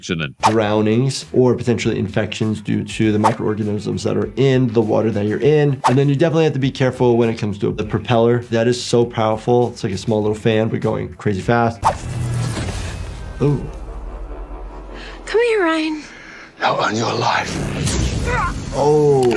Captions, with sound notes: - Drownings or potentially infections due to the microorganisms that are in the water that you're in. And then you definitely have to be careful when it comes to the propeller. That is so powerful, it's like a small little fan, but going crazy fast. (air whooshing) (lightning crashing) Oh. - Come here, Ryan. - Now, earn your life. (lightning crashing) (victim grunting) - Ooh.